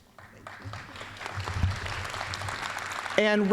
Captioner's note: applause